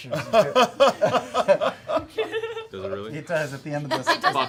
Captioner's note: laughter